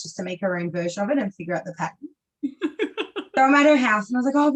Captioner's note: laughs